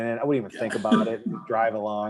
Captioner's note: laughing